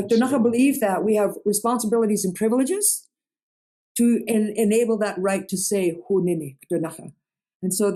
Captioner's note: in Ktunaxa